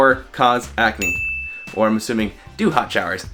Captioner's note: bell ringing